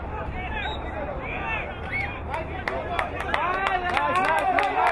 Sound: whistle blowing; crowd applauding

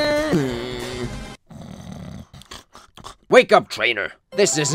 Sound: snoring

